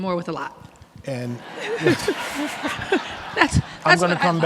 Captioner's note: everyone laughing